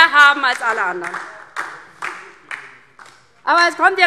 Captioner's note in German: Beifall DIE LINKE